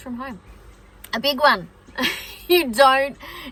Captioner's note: laughs